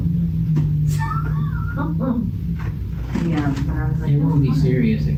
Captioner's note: laugh